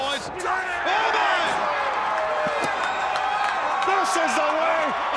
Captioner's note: crowd cheering